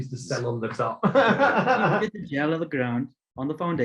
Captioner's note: laughing